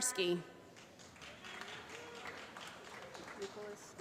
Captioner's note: applause